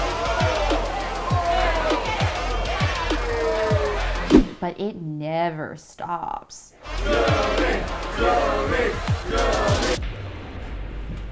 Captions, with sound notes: but it neeever stops [crowd chanting] JEUNGRI! JEUNGRI! JEUNGRI!